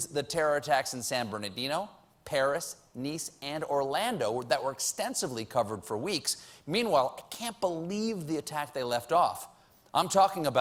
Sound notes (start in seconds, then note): none